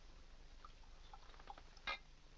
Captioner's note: liquid pouring